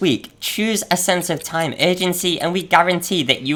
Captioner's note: clock ticking